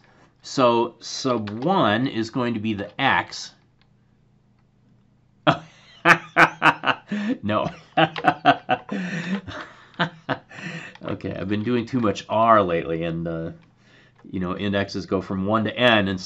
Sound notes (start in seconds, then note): 5.4 laughter